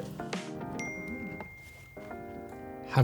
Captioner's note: phone pings